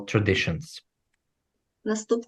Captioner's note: foreign language